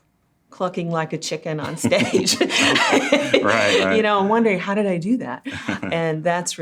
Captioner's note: laughter